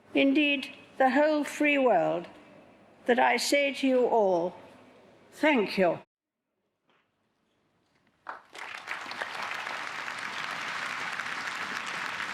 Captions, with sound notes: indeed, the whole free world, that I say to you all thank you. (audience applauds)